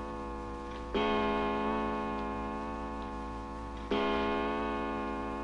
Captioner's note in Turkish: Duvar saatinin saat başı vuruşları devam ediyor